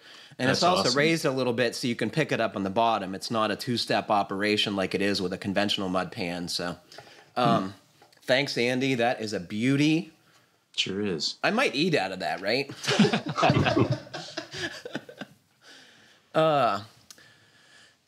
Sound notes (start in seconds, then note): 12.7 laughs; 12.7 laughter